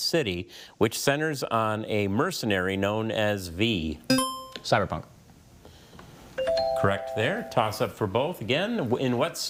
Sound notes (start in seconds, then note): 4.1 buzzer chiming; 6.4 text chiming